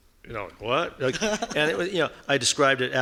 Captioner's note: laughing